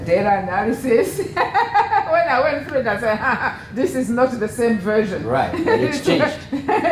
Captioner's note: laugh